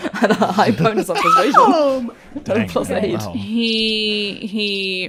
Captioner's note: laughing; laughs